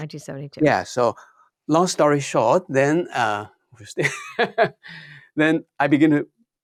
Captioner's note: laughs